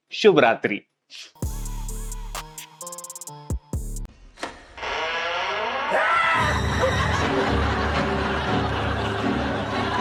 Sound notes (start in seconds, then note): 1.4 outro music playing; 4.3 door creaks open; 5.9 shouts; 6.3 eerie music playing